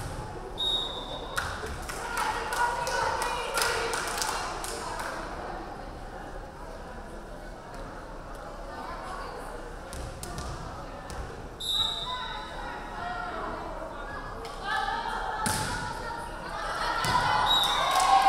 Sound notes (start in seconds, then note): 0.2 crowd clapping; 0.6 referee whistling; 11.6 referee whistling; 16.8 crowd cheering; 17.4 referee whistling